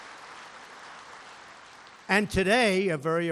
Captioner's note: applause